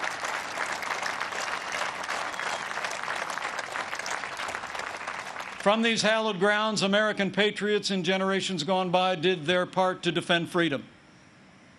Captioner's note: applause